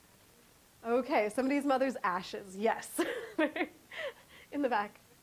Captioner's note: chuckling